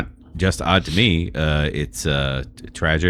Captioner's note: uh